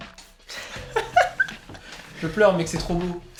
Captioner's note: laugh